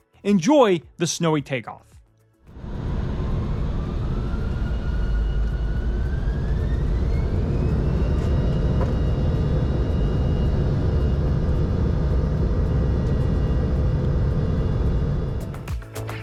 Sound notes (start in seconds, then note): 2.5 engine spool up